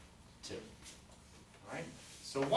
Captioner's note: voiceover